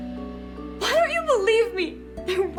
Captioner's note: cries